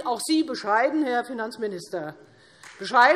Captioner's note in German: Beifall